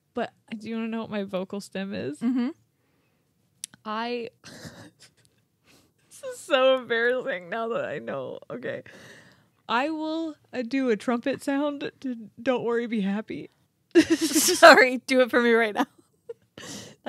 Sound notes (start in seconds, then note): 4.4 chuckling